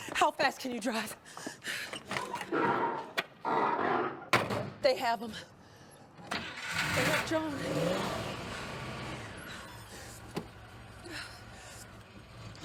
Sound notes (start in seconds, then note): 1.9 panting; 2.5 car door creaks; 6.4 car rumbling; 11.0 Eleanor gasping